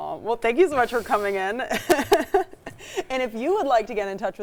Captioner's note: laughs